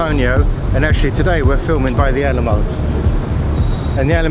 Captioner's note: birds chirping